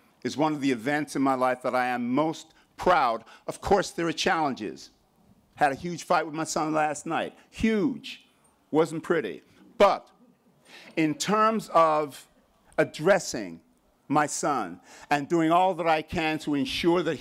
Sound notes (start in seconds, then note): none